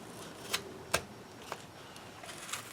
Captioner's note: tearing sounds